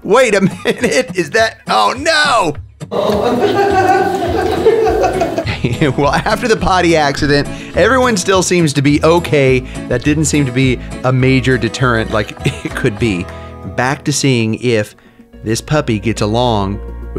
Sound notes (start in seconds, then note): 2.9 laughing